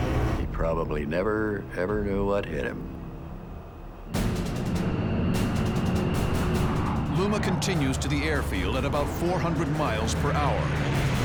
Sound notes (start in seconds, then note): 4.0 dramatic music plays; 4.0 engines roaring